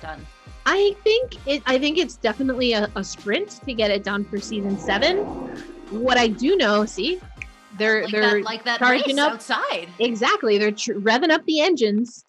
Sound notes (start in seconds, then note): 3.8 engines revving